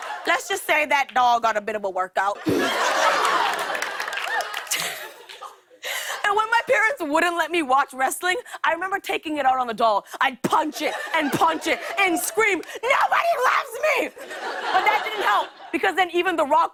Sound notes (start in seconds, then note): 2.4 laughter